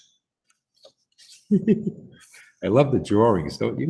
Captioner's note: laughs